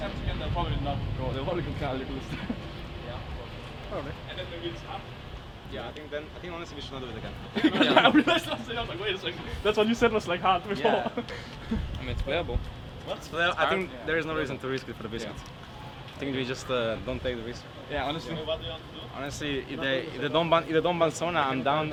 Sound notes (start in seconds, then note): 7.4 team laughing